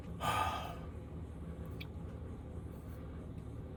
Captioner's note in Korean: 한숨